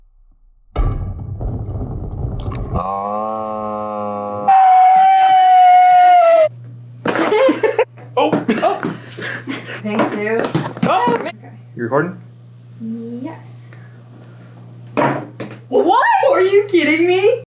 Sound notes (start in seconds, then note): 2.8 same cheers but in super slo-mo; 7.1 giggles; 7.1 laughing